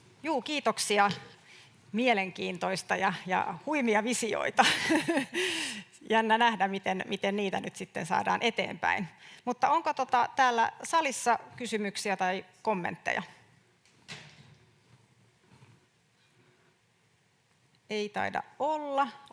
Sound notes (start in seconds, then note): 4.6 naurahtaa